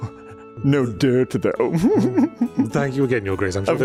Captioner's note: the weird laugh continues